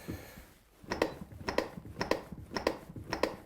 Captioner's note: clicks